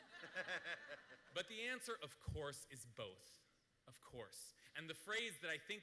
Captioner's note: laughter